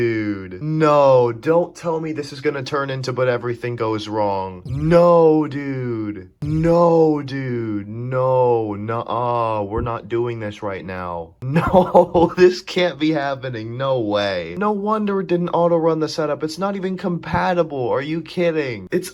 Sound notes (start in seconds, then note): 11.5 cracking up